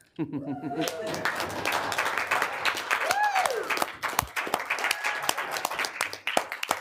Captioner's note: applause